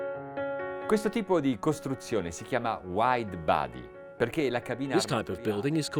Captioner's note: speaking in foreign language